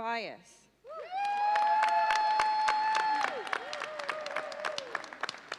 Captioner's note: audience cheers and applauds